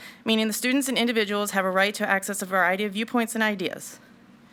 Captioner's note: none